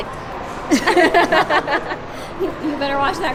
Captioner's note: laughs